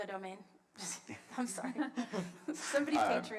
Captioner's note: laughs